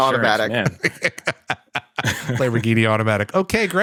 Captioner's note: laughter